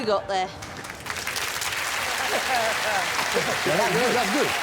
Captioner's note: applause